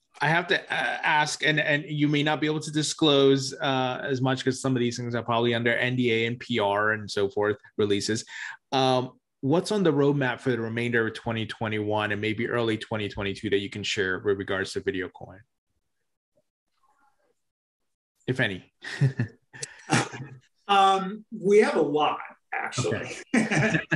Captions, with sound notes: I have to ask, and you may not be able to disclose as much 'cause some of these things are probably under NDA and PR and so forth releases, what's on the roadmap for the remainder of 2021 and maybe early 2022 that you can share with regards to VideoCoin? If any. (chuckling) - We have a lot, actually.